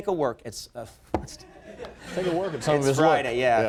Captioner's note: laughing